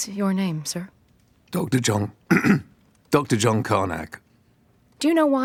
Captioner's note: clears throat